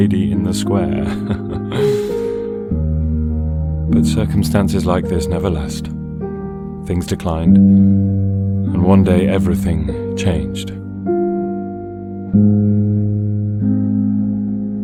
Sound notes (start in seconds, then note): 0.8 chuckles